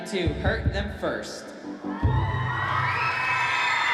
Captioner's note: cheering